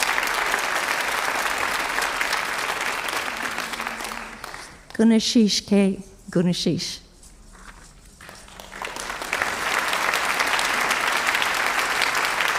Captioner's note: applause